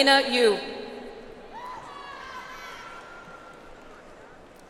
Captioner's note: audience applauds